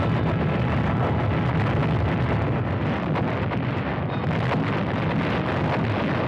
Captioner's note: bombs exploding